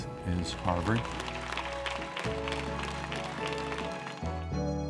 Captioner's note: applause